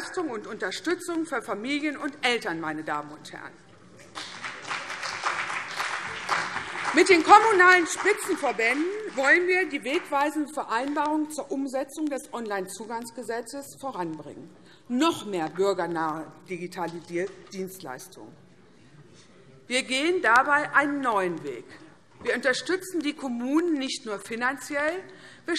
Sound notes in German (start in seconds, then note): 4.1 Beifall CDU und BÜNDNIS 90/DIE GRÜNEN